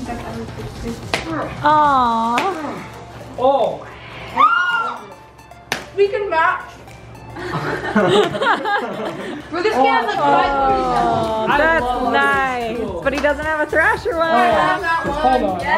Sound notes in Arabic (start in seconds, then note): 4.2 تصرخ